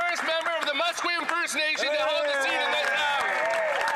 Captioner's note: some Applause